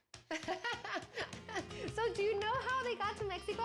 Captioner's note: laughs